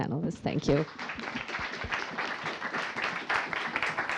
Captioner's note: audience applauds